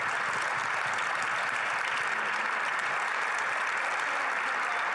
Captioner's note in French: applaudissements